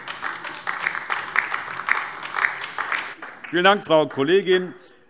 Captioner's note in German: Beifall DIE LINKE